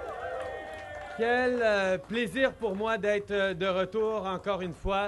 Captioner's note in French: Applaudissements